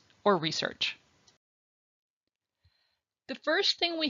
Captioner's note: silence